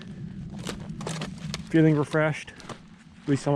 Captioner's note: sticks crunching